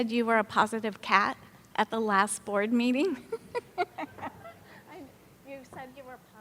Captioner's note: laughs